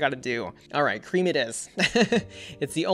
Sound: laughs

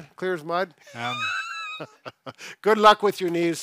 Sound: laughs

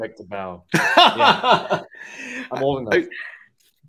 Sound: laughs

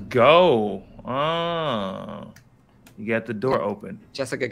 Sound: moaning

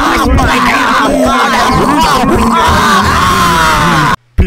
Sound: A great deal of commotion

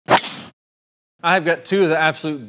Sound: golf club strikes ball

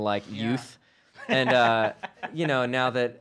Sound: laughs

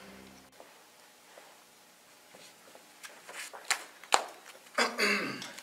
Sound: total silence

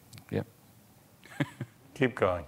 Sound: chuckles

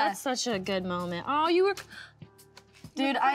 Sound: inhales

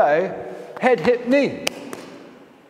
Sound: ball thuds on floor

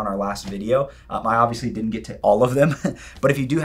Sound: chuckles

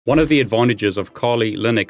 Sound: graphics swish

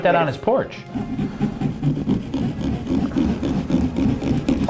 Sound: sawing sound

